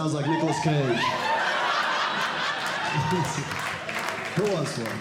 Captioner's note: audience Laughing